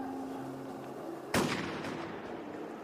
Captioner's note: gunshot